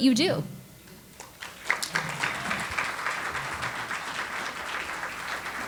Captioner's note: audience applauds